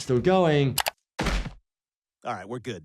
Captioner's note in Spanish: golpes corporales